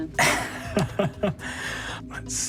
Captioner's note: Brennan laughs